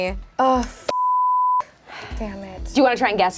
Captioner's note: beep